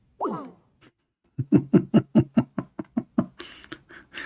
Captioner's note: Ketawa